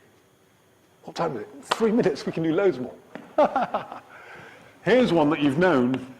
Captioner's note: childlike glee